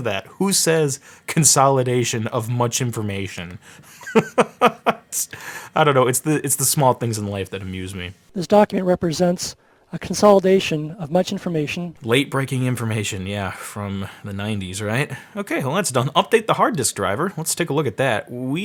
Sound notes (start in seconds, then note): 3.8 laughing